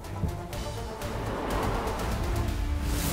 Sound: tires screeching

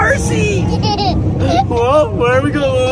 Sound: laughing

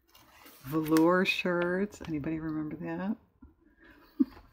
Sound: laughs

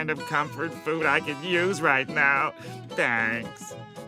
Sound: none

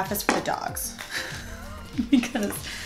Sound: laughs

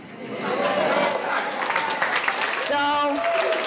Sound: audience applauding

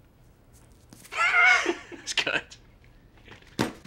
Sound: laughter

